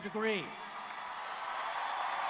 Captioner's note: cheers and Applause